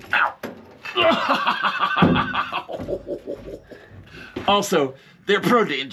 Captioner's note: host laughing